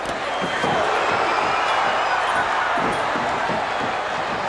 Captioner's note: crowd cheers